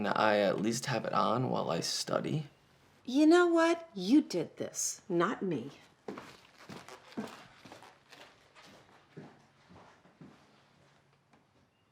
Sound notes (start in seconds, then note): 6.0 footsteps crunching